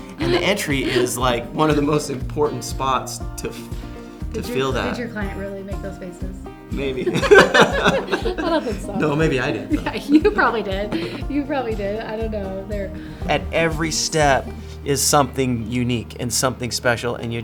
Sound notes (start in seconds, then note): 6.9 both laugh